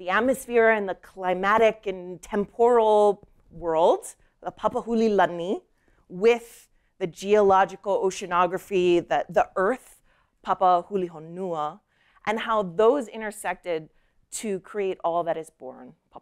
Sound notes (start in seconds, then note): none